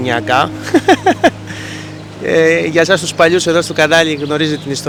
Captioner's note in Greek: γέλια